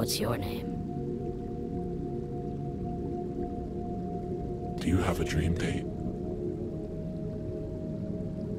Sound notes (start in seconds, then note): 4.9 low Voice